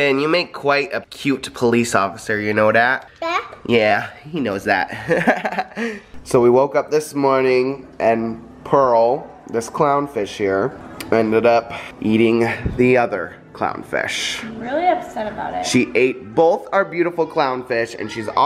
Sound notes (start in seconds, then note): 5.0 laughs